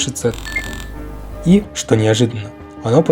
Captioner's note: Bell.mp3